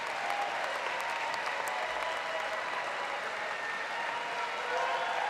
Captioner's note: aplause